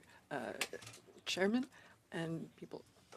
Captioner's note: speaking in French